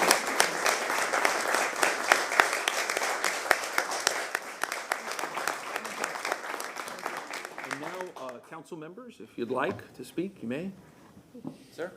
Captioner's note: applause